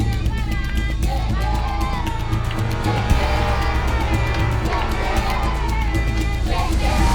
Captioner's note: cheering